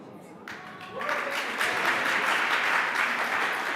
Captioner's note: applause